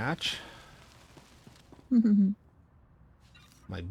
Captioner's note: laughs